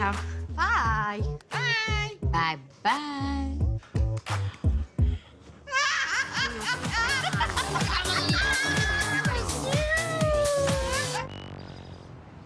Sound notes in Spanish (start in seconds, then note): 5.6 Risas; 8.4 Exclamaciones